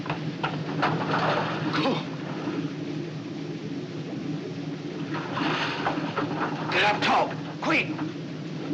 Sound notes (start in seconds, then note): 1.2 gasps